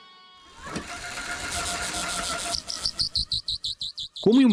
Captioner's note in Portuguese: Bike acelerando